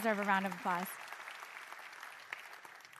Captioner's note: applause